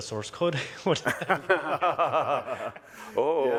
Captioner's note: laughing